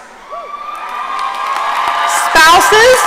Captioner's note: audience cheering and applauding